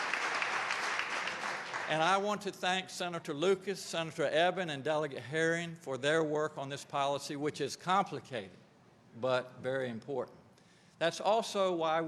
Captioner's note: applause